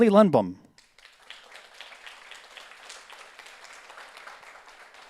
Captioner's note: audience applauds